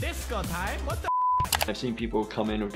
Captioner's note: beep